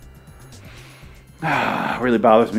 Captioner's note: long sigh